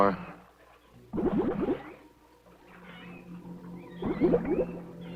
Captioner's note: water bubbling